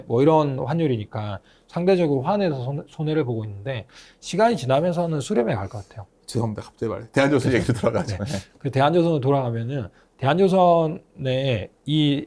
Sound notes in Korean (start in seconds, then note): 7.5 웃음